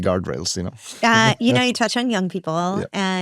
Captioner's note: chuckles